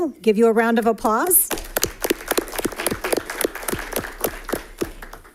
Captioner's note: audience applauds